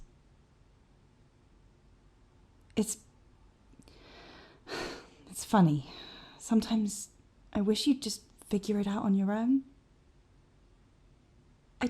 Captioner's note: sighs